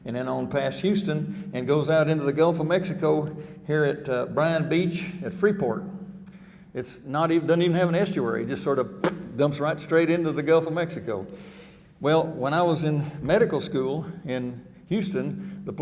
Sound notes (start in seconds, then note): 9.1 spurts